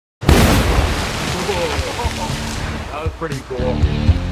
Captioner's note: boom